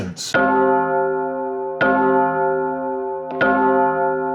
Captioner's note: bell chiming